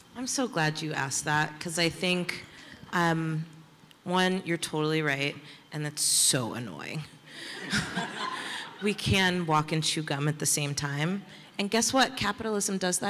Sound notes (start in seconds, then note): 7.5 laughter